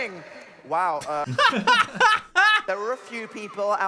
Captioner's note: both laughing